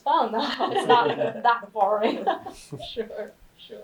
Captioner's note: all laughing